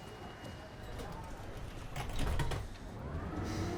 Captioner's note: train door closes